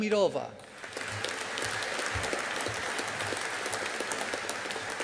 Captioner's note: audience applauding